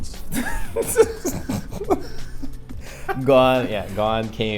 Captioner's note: laughs